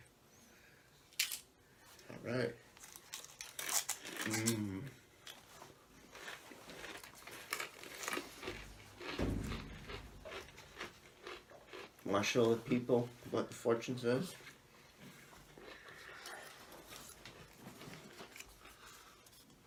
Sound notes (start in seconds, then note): 1.2 cookie cracks; 5.9 cookie crunching sounds